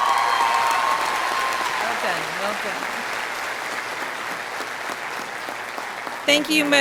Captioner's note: audience cheering